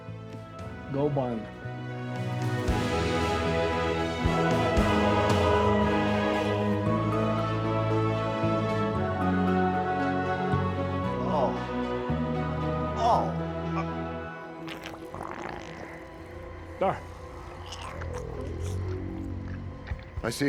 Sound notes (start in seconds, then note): 1.0 Tector speaks faintly; 3.1 triumphant music; 13.0 Walter groans; 15.2 eerie music